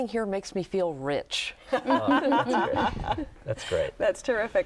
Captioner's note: laughter